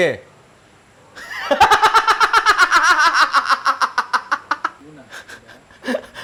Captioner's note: laughs